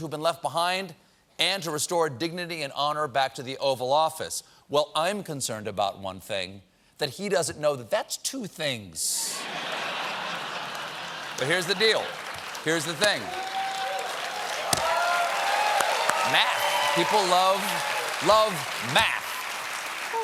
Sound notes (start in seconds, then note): 9.3 laughter; 9.4 cheers and applause